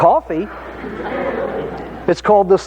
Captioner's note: audience laughing